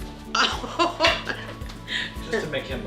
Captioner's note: laughter